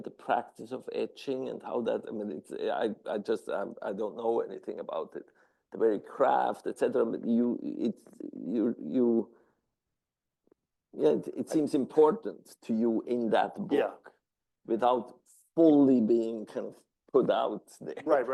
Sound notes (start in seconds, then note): 7.8 stammering